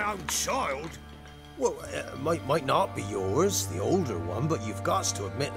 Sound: stammer

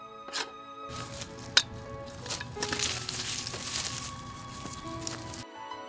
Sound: footsteps as the sword drags behind

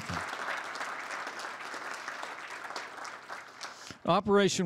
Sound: applause

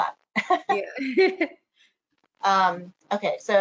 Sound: laughs

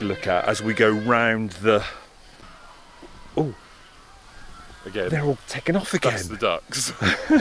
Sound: massive bird noise

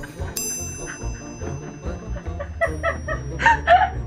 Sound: and can't stop laughing

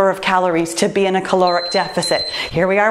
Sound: timer beeps

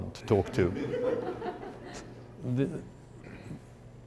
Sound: laughter

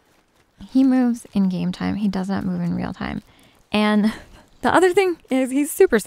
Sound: giggles

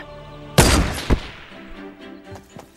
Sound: gun fires; upbeat calm music begins

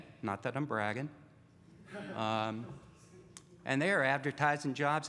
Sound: audience laughs

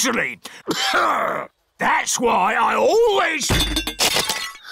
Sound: clears throat; peppa gasps

